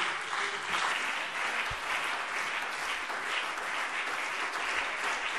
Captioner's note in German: Beifall CDU und BÜNDNIS 90/DIE GRÜNEN